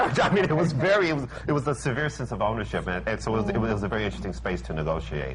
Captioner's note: laughs